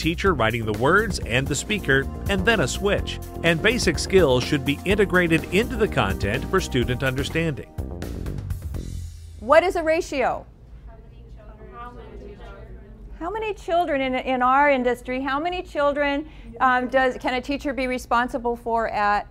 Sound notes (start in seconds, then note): 11.5 students discuss in background